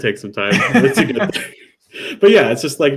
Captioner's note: laughs